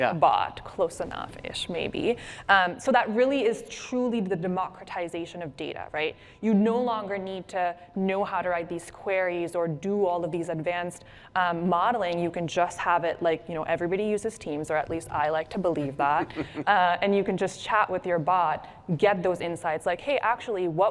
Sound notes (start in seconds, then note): 16.2 laughter